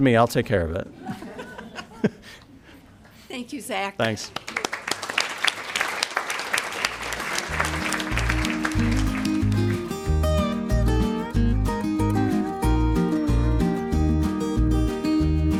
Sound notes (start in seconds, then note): 0.9 laughter; 8.1 applause